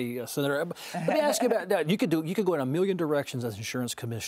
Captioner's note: laughs